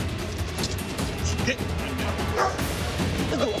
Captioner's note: dog barks